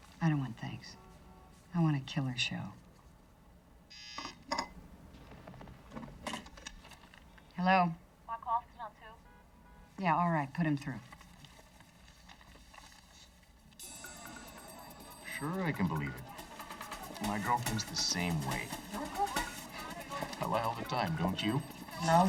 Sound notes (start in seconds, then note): 3.9 phone buzzes; 14.0 tense music